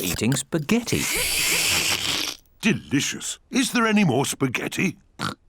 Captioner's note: slurps; oinks